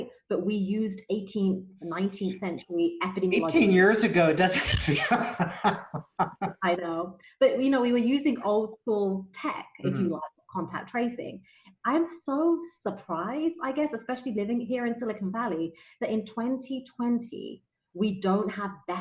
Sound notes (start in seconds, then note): 4.8 laughs